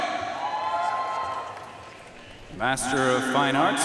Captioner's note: audience cheering and applauding